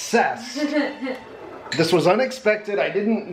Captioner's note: chucking